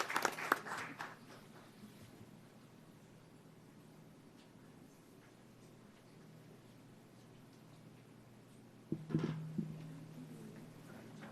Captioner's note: applause